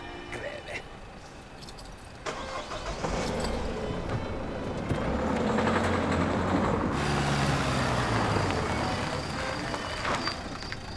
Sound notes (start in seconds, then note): 1.5 car engine starts